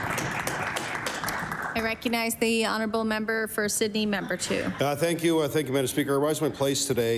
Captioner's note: applause